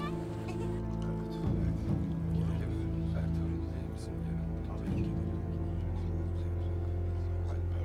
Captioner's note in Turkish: Konuşma sesleri